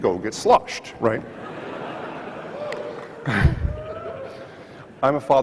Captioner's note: audience laughs